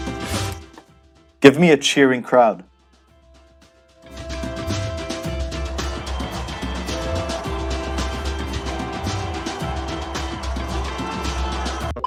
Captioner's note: crowd Cheering